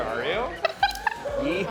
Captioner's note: laughing